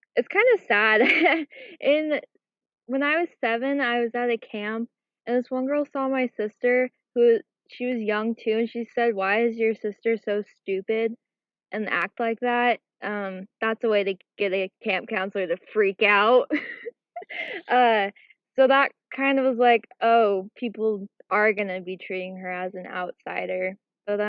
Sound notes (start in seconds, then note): 16.5 chuckles